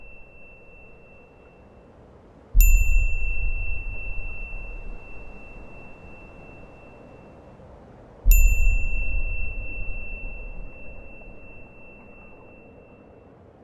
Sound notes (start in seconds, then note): 0.1 wind blowing; 2.6 bell rings